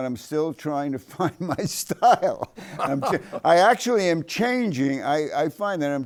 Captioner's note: chuckles